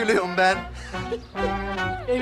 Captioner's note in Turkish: Gülme sesi